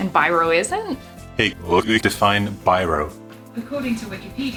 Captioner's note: reversed speech